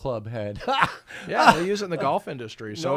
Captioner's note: laughing